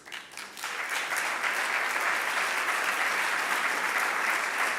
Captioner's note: audience applauding